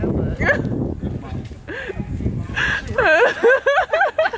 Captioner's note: family laughing